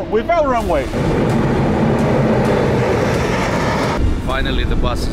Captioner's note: plane engine roaring